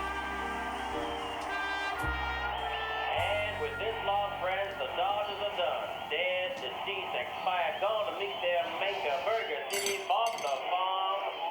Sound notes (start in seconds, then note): 4.4 radio in background